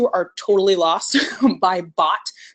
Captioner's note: laughs